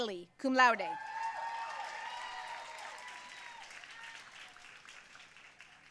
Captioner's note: audience cheering and applauding